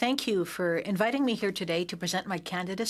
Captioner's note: speaking in French